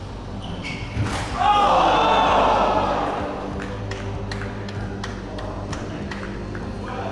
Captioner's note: crowd